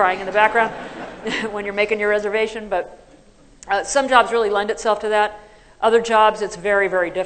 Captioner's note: laughter